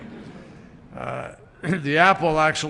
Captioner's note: laughter